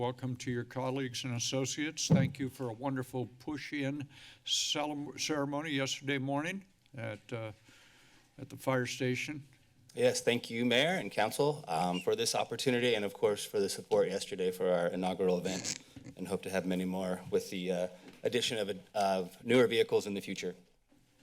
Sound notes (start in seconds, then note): 15.6 cringed sounds